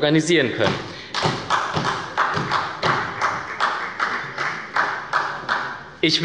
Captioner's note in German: Beifall bei Abgeordneten der SPD